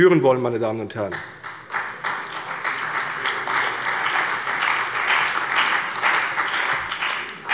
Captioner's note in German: Beifall bei der CDU und dem BÜNDNIS 90/DIE GRÜNEN